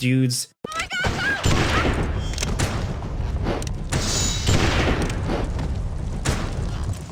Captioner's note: guns blasting